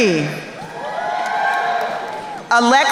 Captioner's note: crowd cheering